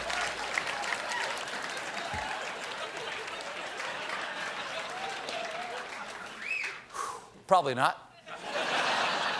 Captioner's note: laughter